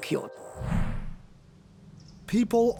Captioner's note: air whooshing